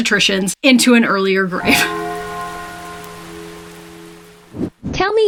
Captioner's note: church bells chiming